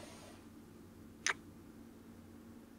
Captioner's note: kiss